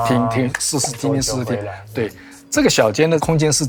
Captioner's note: reverb